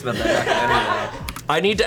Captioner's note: colleagues laughing